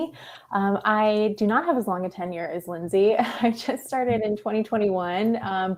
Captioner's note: chuckles